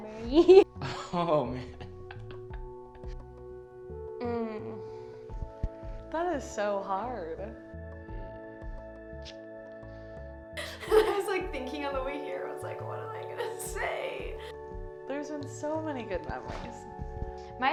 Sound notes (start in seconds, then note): 1.6 laughs